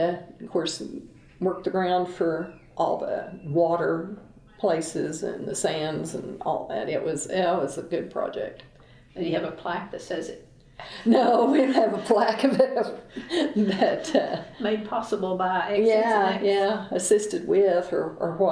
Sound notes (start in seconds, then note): 13.1 laughter